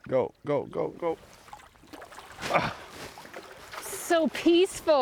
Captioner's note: grunting